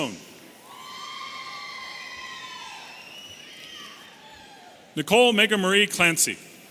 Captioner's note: audience cheering and whistling